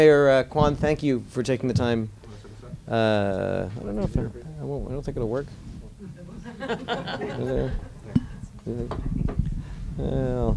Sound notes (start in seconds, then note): 6.4 laughter